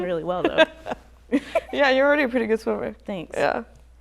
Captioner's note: chuckles